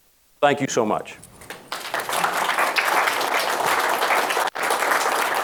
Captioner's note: audience applauding